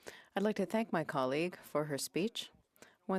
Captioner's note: speaking French